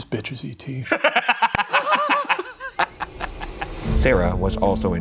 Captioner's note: both laughing